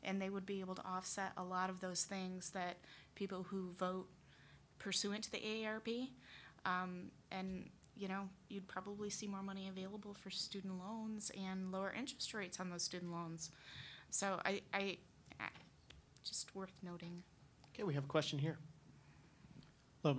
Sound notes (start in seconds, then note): none